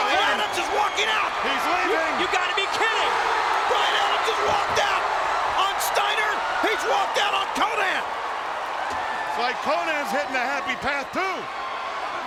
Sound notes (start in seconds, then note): 2.3 audience roaring